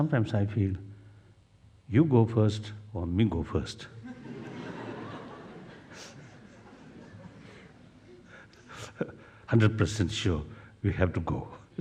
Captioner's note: laughs